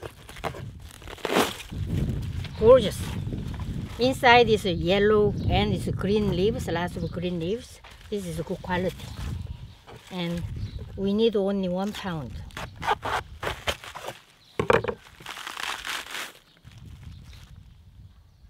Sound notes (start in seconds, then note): 13.6 crunching